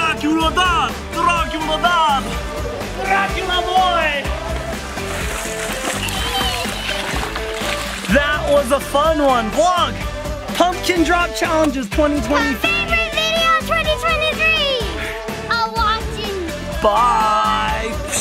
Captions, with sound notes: Dracula Dad, Dracula Dad. Dracula boy! (upbeat music) (water splashing) That was a fun one. Vlog, pumpkin drop challenges 2025. - Favorite video 2023. - All watching. - Bye!